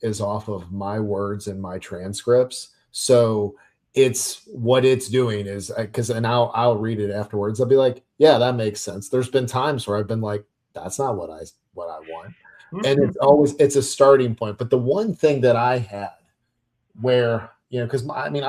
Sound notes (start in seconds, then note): 12.8 laughs